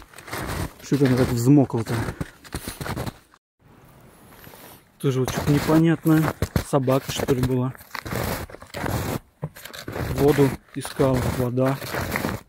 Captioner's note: snow crunching